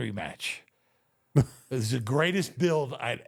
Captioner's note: The Undertaker laughs